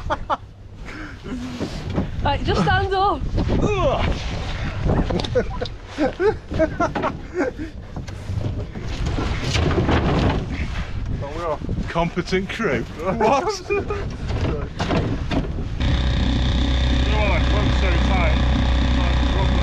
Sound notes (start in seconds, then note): 6.6 laughter